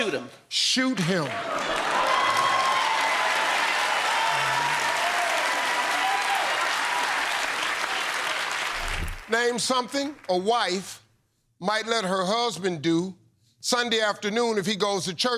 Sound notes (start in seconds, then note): 4.1 cheers and applause